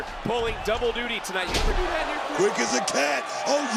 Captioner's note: thuds